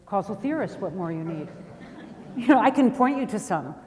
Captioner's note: audience laughs